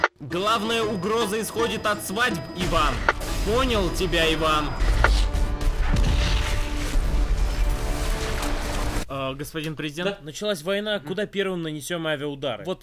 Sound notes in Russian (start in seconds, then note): 2.3 Играет; 5.5 звучат взрывы